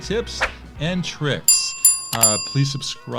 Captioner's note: bell chimes